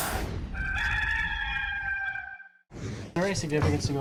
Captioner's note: rooster crowing